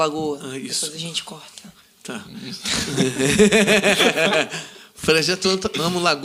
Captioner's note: laughs